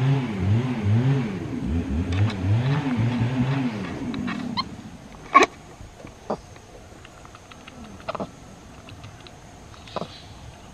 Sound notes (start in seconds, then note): 6.2 monkey chattering